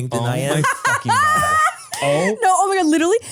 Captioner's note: laughs